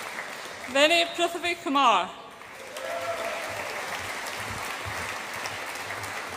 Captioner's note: audience applauds and cheers